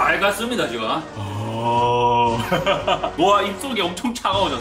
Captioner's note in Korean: 웃음 소리